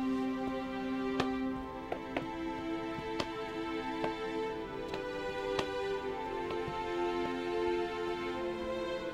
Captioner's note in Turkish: Ayak sesleri; El vurma sesleri